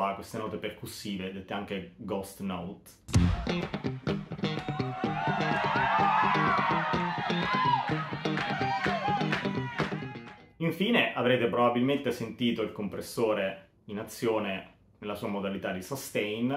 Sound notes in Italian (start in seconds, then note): 4.6 Applauso